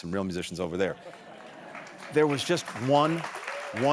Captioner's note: applause